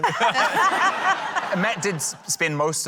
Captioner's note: laughter